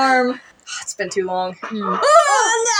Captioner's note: sigh; chuckle